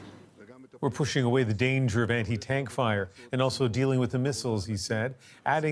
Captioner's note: speaking alternate language